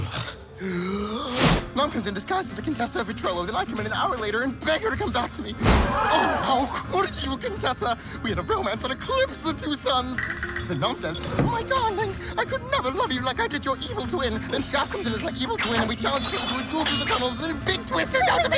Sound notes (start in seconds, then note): 0.2 deep breath, speaking rapidly; 5.6 imaginary audience gasping at drama